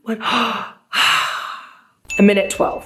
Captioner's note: gasping